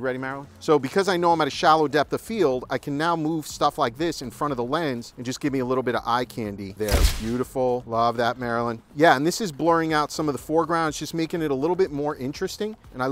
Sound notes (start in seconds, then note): 6.8 shutter snaps